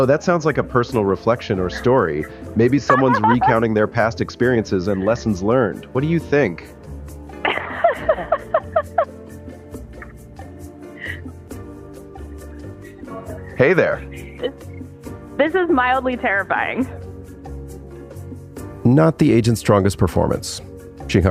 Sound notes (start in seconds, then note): 7.4 laughs